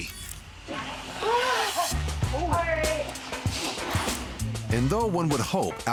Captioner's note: breathes deeply